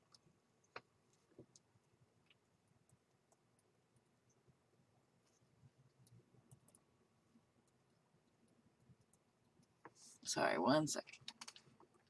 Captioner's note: typing